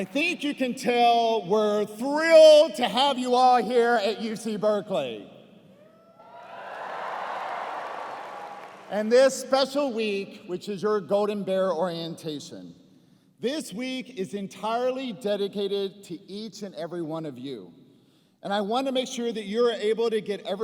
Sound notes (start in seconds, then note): 6.2 cheers and applause